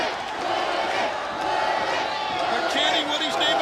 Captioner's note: crowd cheering